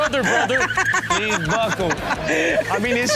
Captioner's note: Chanel laughs